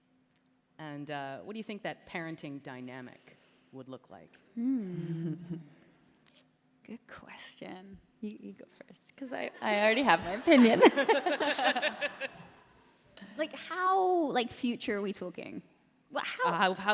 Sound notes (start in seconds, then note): 4.9 Kat, chuckles; 10.2 laughter